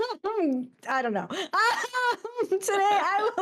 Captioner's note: laughs